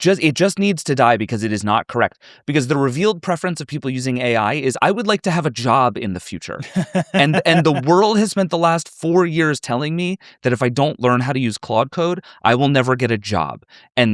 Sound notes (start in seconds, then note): 6.6 chuckles